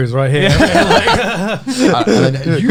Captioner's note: all laughing